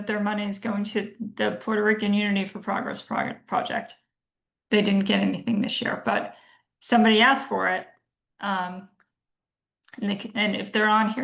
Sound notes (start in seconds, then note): none